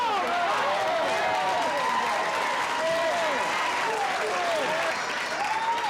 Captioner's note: cheering